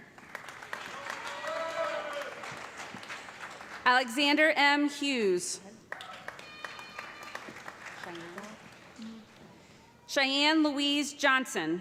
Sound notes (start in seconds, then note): 0.2 cheers and applause; 5.9 applause